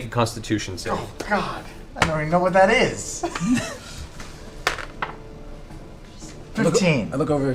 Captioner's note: laughs